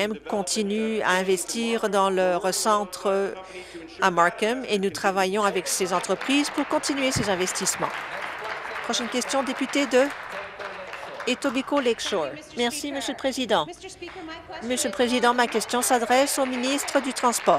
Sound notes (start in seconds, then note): 10.9 applause